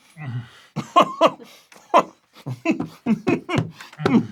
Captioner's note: groans; coughs more